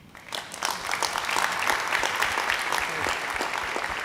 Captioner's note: audience applauding